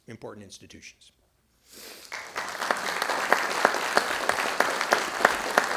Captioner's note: audience clapping